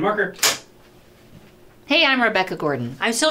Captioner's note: clapperboard clicks